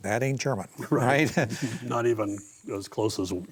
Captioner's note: chuckles